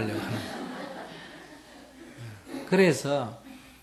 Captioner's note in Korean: 청중 웃음